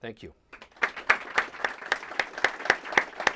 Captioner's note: applause